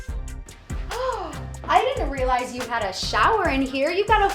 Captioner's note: gasps